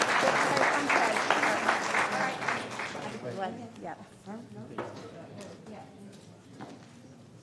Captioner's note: applause